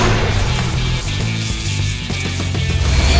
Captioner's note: sword crashes; sword crackling; sword whirring